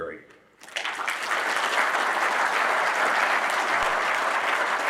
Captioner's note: audience applauding